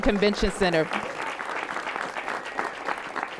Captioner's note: applause